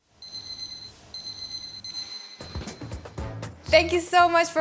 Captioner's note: alarm beeping; upbeat music